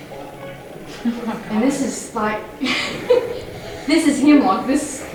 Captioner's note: laughs